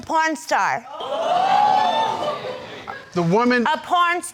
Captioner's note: crowd gasping